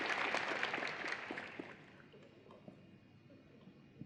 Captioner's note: applause